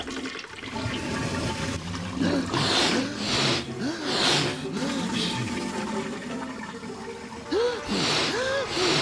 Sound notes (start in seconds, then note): 0.7 toilet flushing